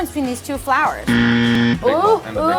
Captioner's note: buzzer sound